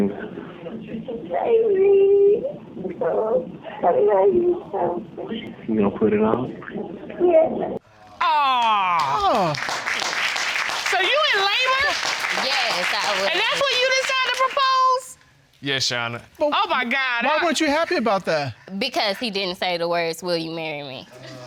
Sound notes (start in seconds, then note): 8.4 spectators applaud